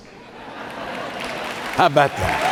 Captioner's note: audience laughing; audience applauding